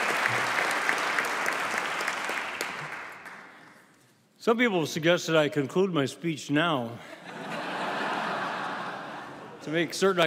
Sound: applause

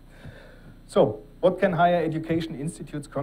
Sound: none

